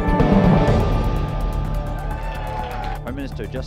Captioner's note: cheering